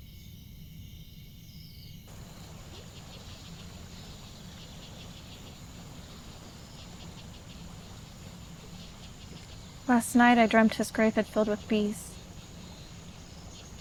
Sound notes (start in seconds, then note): 2.1 water gurgles from the stream